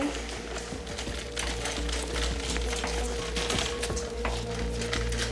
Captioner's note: rolling of the shopping cart